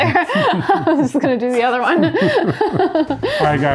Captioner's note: laughs